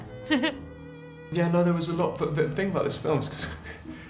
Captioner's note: laughter